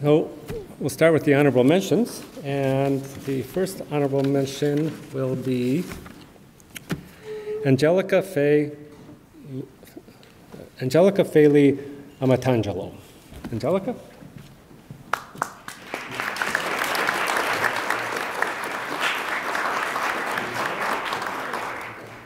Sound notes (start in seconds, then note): 15.1 attendees applaud